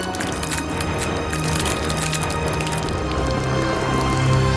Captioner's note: blood splattering